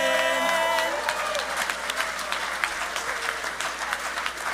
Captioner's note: audience applauding